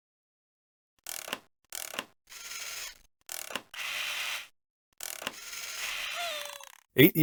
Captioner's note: toy SFX